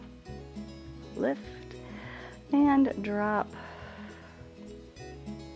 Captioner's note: exhales